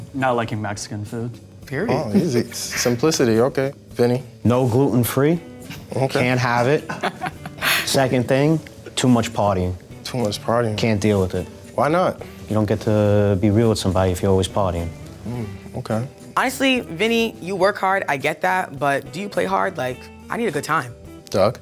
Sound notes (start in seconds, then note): 6.8 chuckles